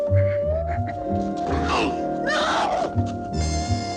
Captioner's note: groaning